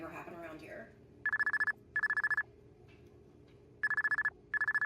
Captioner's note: phone ringing